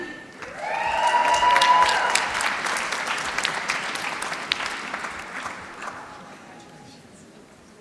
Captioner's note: applause